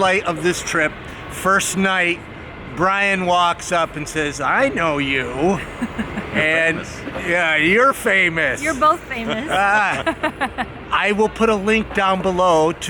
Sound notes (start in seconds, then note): 5.5 lady laughing; 9.5 laughing